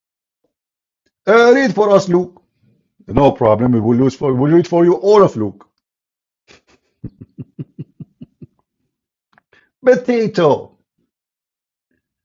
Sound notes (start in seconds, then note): 7.0 Ketawa